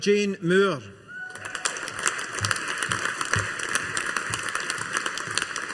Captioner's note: audience applauding